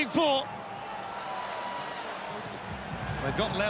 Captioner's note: crowd cheers